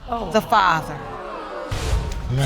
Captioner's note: audience exclaim in disappointment